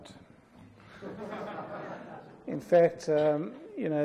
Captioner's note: audience laughs